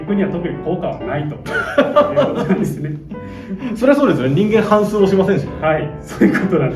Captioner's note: laughs